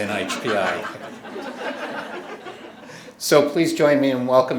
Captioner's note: audience members laughing